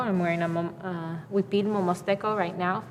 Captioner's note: speaking foreign language